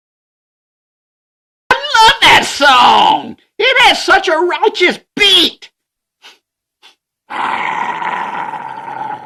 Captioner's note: growling